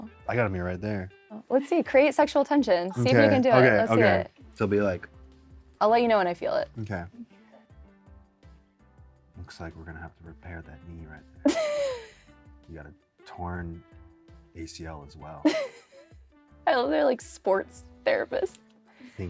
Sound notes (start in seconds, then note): 9.5 sultry; 11.4 laughs; 15.4 laughs